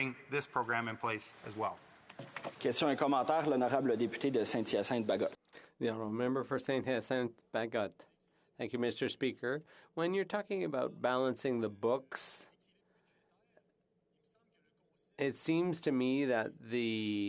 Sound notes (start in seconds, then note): 7.6 speaking French